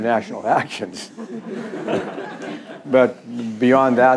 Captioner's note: laughs